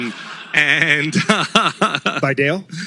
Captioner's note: laughter